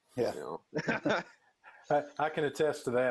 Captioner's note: laughing